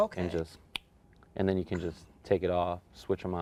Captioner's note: snap